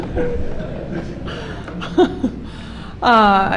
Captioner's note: laughter